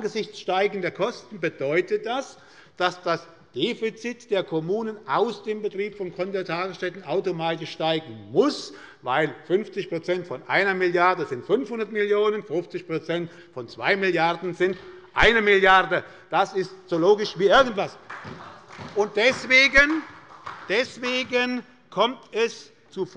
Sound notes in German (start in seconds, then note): 17.8 Beifall bei Abgeordneten der SPD